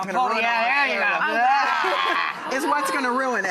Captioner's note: laughing